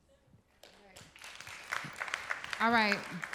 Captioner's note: applause